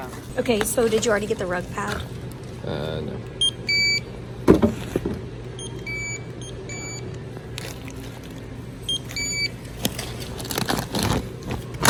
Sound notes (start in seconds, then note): 3.2 scanner beeping; 10.1 bag crinkling